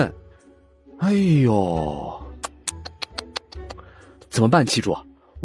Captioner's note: mockingly